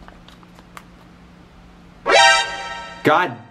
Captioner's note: alert sound effect from Metal Gear Solid